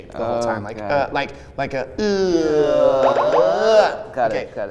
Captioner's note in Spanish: ruidos de alíen xdxdxd